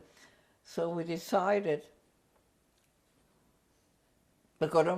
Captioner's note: pauses for 3 seconds